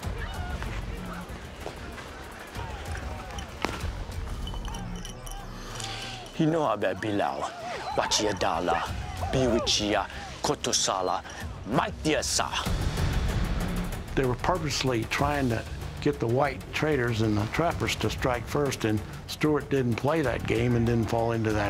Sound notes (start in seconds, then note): 0.1 tense music; 6.9 speaking crow language